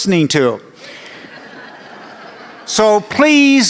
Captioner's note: laughter